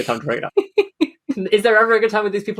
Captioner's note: laughs